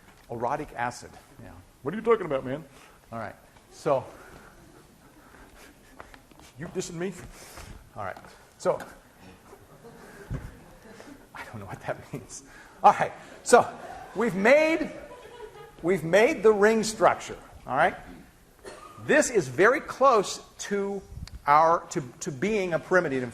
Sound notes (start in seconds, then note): 2.7 scattered laughter; 9.3 laughing; 12.6 class laughing